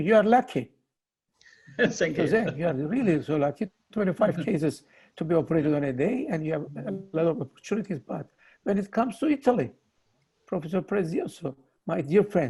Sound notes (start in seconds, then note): 1.7 laughs